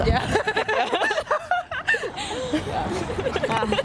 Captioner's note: all laugh